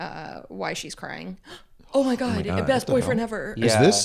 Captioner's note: gasps